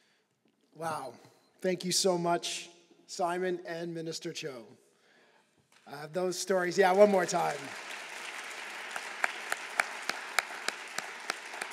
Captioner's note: applause